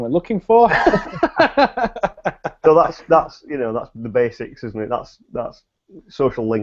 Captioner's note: both laugh